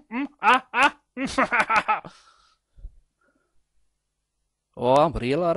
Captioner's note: laughs